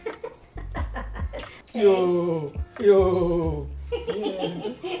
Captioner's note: laughs